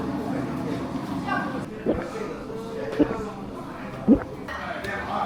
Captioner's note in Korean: 꿀꺽꼴깍꿀떡